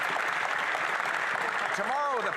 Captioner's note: some Applause